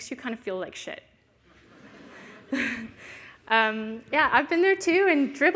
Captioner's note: laughter